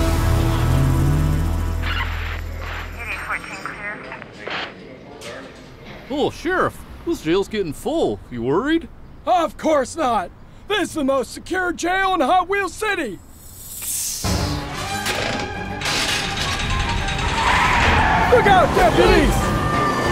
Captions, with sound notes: (office sounds) (police radios chirping) - Oh, Sheriff, this jail's getting full. You worried? - Of course not. This is the most secure jail in Hot Wheels City. (hissing) (dramatic music) Look out, deputy!